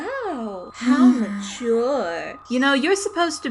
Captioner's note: SOUNDWAVE sighs